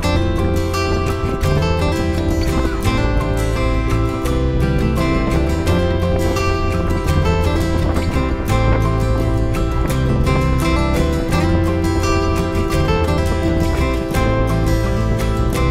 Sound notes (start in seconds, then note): 0.1 bright guitar music; 0.1 pleasant piano music; 6.3 air whooshing; 6.3 bright guitar music